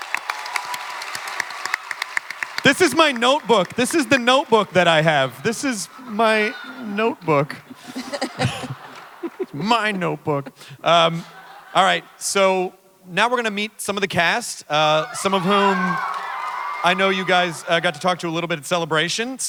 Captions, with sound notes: This is my notebook, this is the notebook that I have. This is my notebook. [Panelists chuckling] My notebook. Uh -- Alright. So, now we're gonna meet some of the cast. Some of whom, I know you guys got to talk to a little bit at Celebration.